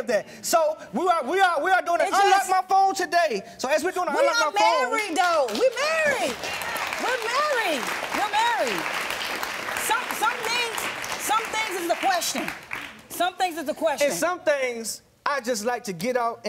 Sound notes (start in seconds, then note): 6.2 audience applauding